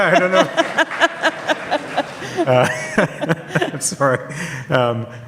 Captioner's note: audience laughs